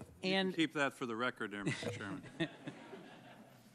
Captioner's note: laughter